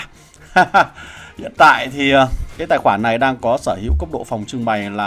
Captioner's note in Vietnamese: tiếng cười